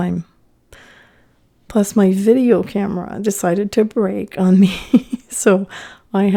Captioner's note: laughing